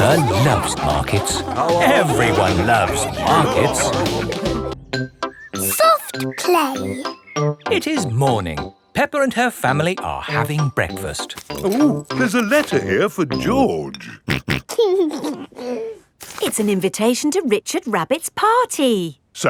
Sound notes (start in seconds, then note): 14.0 snorting and giggling